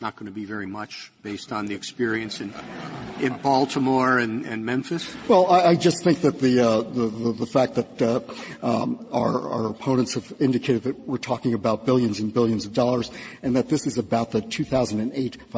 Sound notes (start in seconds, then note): 4.6 laughter